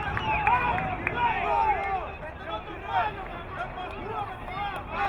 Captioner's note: crowd muttering